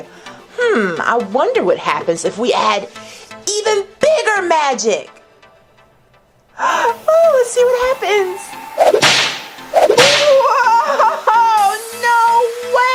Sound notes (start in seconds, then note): 8.8 door whips